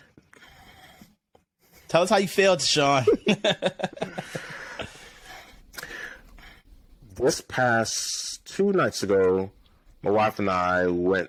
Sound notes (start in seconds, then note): 2.9 laughs